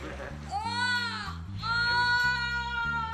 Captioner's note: funky music; screams